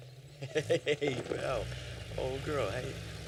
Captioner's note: laughs